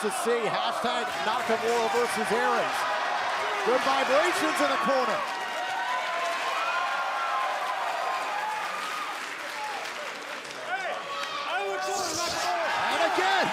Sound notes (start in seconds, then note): 1.5 crowd cheering; 4.4 crowd chatter; 5.4 crowd cheering